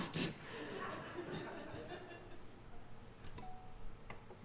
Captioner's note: audience laughing